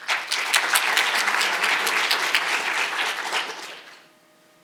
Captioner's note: audience applauding